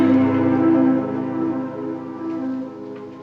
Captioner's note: ticking of the clock